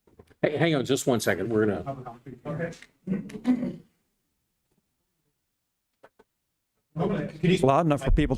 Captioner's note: clears throat